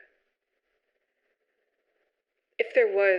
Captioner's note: long pause